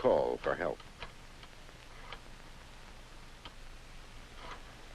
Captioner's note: rotary phone dial sound